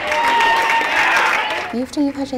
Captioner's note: applause